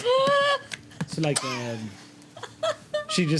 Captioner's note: laughing